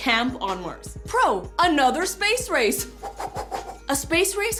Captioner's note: mimics whooshing